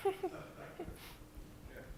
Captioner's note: laughter